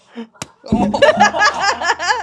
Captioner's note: laughing; ball smacks; laughs